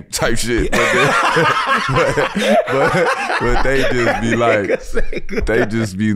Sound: laughs

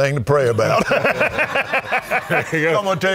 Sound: all laughing

